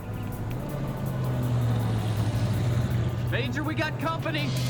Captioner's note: truck rumbling